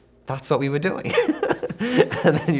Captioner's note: laughs